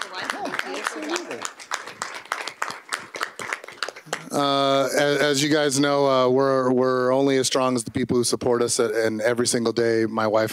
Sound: applause

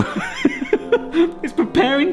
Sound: laughs

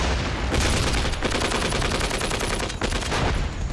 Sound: guns firing

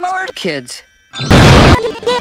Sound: explosion

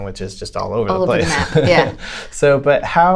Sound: laughter

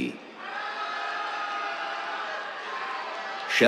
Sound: cheers

